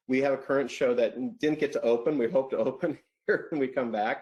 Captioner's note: laughs